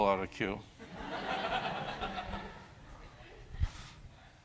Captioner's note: laughter